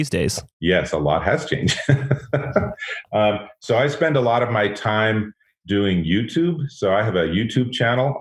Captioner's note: laughs